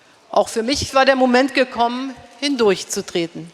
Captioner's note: speaking in German